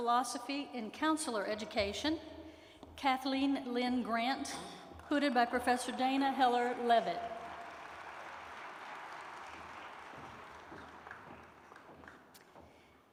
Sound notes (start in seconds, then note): 7.8 applause